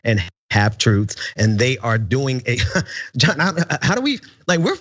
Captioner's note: laugh